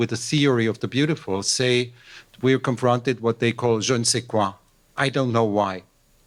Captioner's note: french